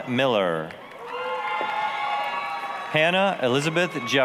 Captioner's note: applause, cheering